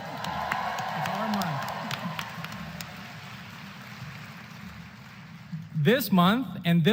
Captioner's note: applause